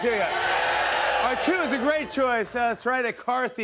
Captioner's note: audience shouting